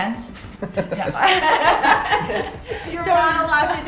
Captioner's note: laughing